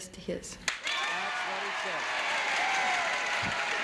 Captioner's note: audience cheers